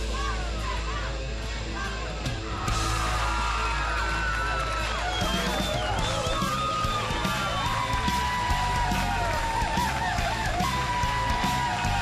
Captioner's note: crowd cheering